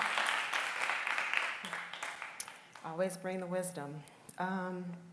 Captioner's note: applause